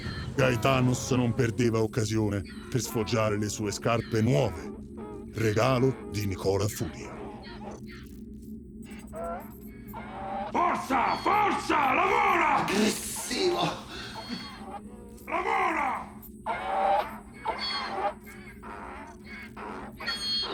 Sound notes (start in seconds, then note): 7.4 Donkey's bray; 17.4 loud donkey's bray